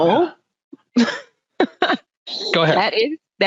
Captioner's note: laughing